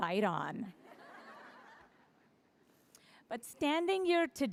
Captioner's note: laughter